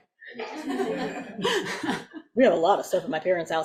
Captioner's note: audience laughs